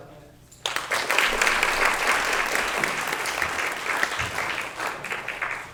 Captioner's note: applause